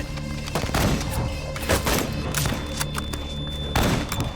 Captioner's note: gunshots